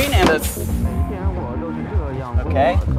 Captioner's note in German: Auto spricht Mandarin